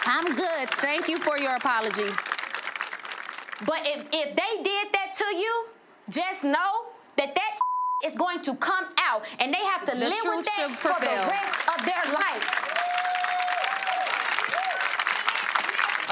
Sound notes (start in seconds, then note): 7.6 beep; 13.9 audience applauds